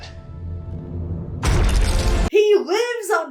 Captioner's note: energy crackles